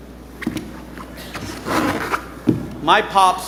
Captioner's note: boots squeaking; footsteps thudding